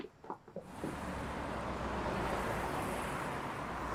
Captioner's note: traffic buzzing